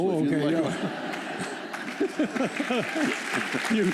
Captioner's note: laughter; applause